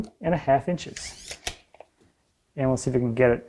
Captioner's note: tape measurer squeaking